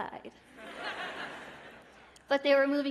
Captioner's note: laughter